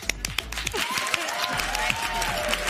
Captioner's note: applause